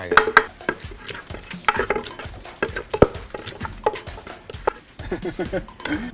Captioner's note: sound of the mortar and pestle